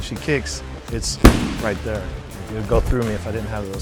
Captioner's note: kick thudding loudly